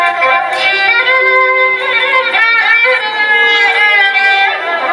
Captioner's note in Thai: ปรบมือ